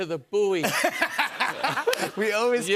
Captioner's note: laughs